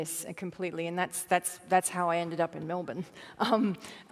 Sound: chuckle

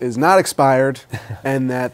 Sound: laughter

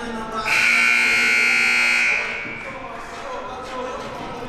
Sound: siren buzzing

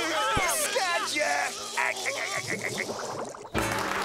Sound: laughing

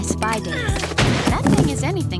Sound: groan; crash

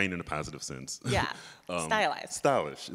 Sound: chuckles

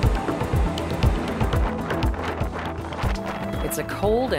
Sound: wind

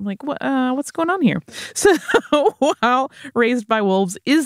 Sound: laughs

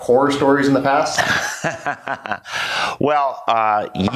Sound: laughs

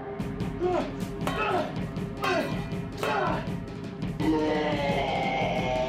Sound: exclaiming; metal clanging; snarling

